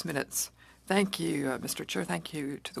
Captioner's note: speaking French